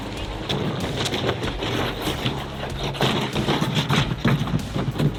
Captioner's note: boat scraping on the rocks